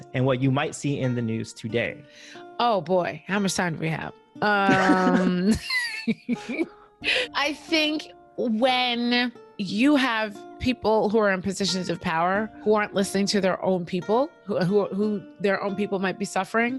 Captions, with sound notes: and what you might see in the news today? Oh, boy, how much time do we have? Um... [laughing] I think when you have people who are in positions of power who aren't listening to their own people, who their own people might be suffering